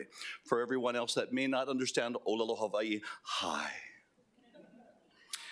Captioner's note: hawaiian language